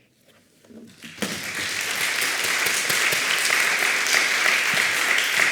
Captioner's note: applause